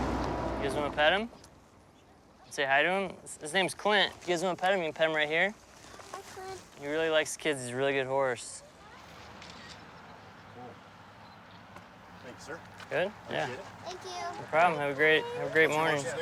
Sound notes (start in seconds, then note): 9.4 camera shutter clicks